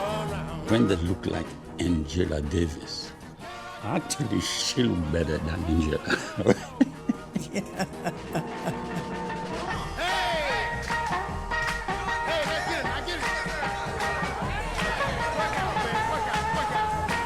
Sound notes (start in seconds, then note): 5.1 laughs; 13.7 electric guitar solo